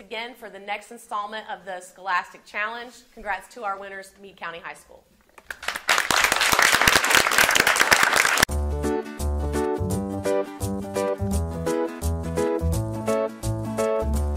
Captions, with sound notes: for the next installment of the "Scholastic Challenge". Congrats to our winners, Meade County High School. (audience applauding) (upbeat music)